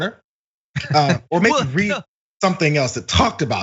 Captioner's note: laugh